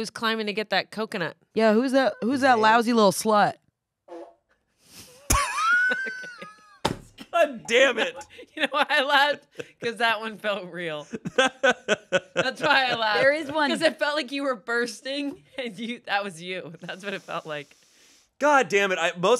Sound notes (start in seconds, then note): 4.1 fart machine farts; 5.3 laughs; 11.0 laughs